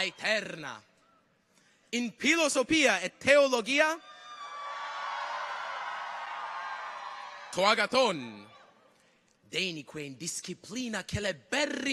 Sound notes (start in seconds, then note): 0.0 people cheer; 4.0 people cheer